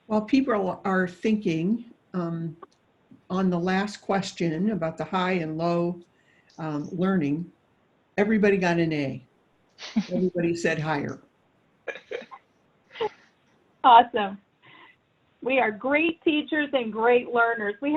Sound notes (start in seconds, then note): 11.9 laughing